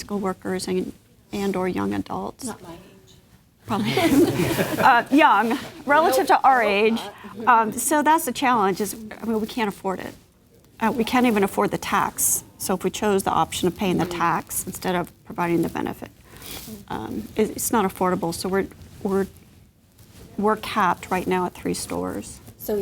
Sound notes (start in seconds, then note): 3.7 laughing